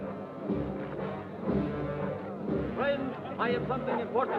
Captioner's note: crowd chattering; serious music